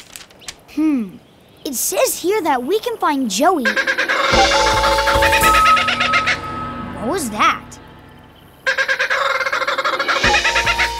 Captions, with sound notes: Hmm. It says here that we can find Joey... [squawking] What was that? [squawking]